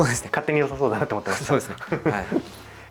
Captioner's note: laughs